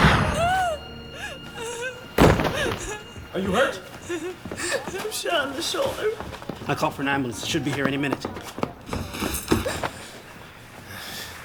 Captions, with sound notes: (gun firing) (whimpering) - Are you hurt? - I'm shot in the shoulder. - I called for an ambulance, it should be here any minute.